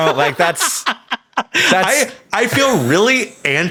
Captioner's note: Sam laughing